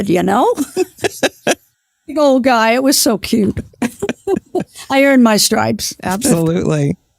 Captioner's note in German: lacht